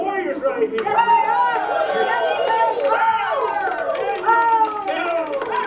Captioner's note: shouting